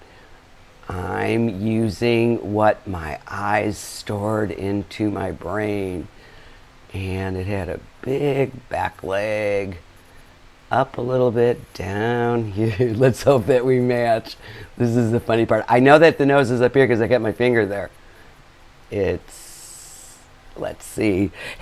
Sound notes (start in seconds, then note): 12.1 laughing